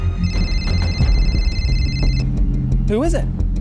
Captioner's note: cell phone rings